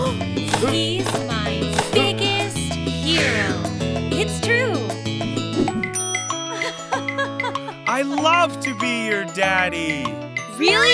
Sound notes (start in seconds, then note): 6.5 chuckling